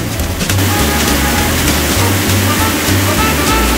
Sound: cars honking

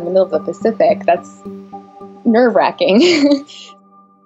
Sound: laughing

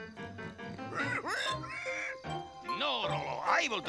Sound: rolo grunting

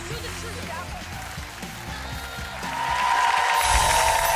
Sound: applause

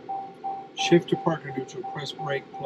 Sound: car indicator beeping

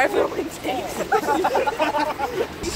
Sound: laughs

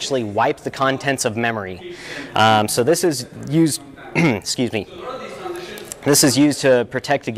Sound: ahem

